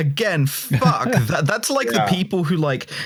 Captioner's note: laughter